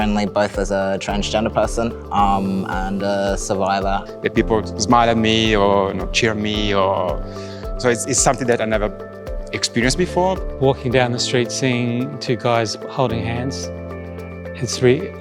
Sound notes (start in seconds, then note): none